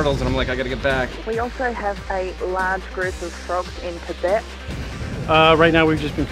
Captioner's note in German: Voiceover